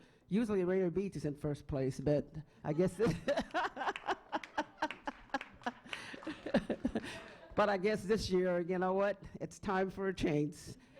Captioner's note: laughing